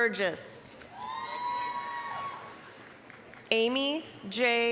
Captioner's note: applause, cheering